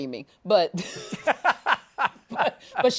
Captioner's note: laughs